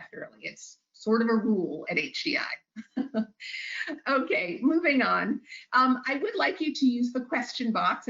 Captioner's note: chuckles